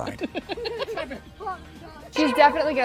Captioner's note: videographer laughing